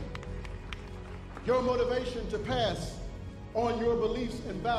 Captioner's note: cheers and applause